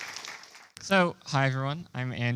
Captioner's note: applause